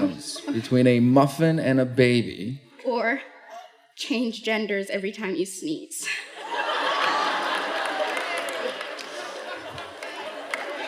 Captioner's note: laughter